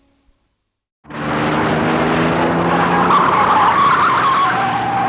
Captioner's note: car engine roaring, tires squealing